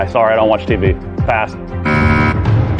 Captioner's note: buzzer sounds